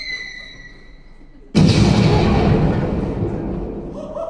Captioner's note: explosion